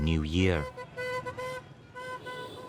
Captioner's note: horn honking